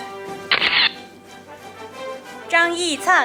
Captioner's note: camera shatters